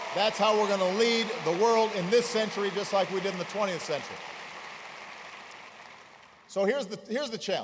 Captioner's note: applause